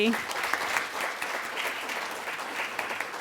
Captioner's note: applause